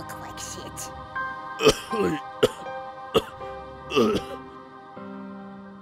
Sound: coughing from the injuries

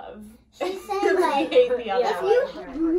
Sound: laughing

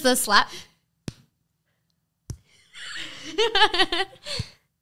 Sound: slapping sounds

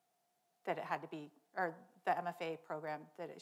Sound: none

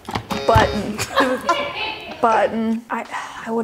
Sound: button buzzes; laughs

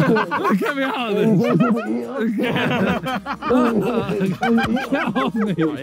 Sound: indistinct chattering; laughing

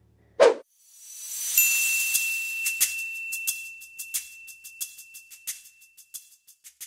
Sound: screen whooshing; lively music

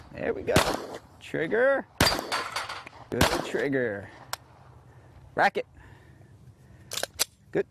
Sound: gunshots

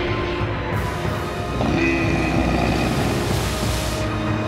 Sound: grunting

